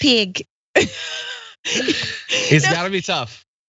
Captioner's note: laugh